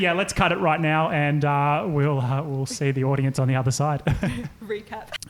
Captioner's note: laughing